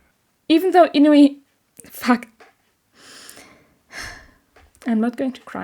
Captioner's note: exhale; inhale